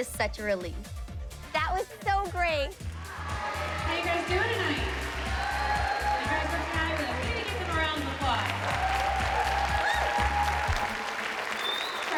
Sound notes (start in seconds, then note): 2.9 screaming; 5.5 screaming; 8.7 cheers and applause